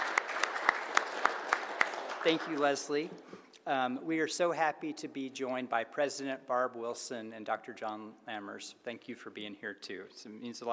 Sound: applause

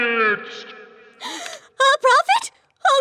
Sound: gasps

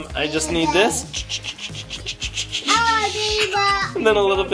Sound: dad imitating snipping noises

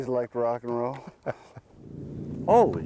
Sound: laughter

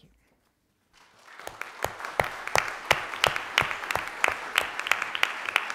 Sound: audience clapping

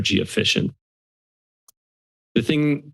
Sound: silence

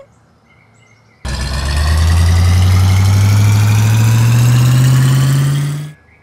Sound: car engine speeds up

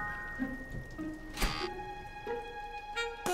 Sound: buzz

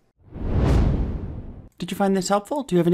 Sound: wind whooshing

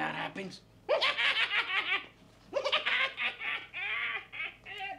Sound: wild laughter

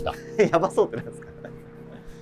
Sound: laughing

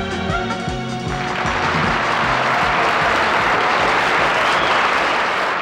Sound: audience applauding

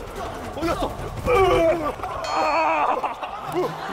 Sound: hitting

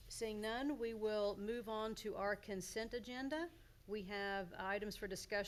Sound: none

